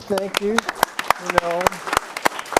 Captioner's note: everyone applauding